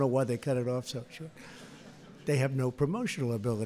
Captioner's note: laughter